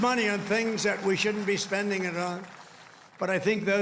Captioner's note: cheers